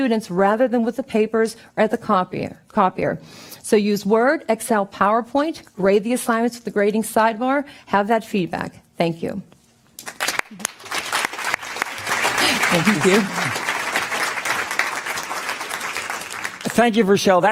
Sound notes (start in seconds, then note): 10.0 applause